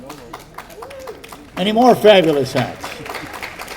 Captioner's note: audience applauding